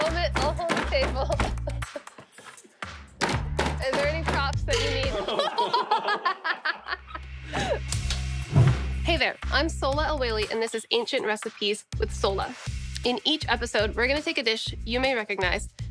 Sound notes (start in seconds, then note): 4.7 laughter